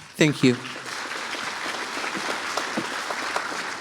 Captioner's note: audience applauds